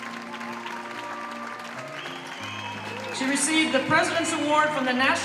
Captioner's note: applause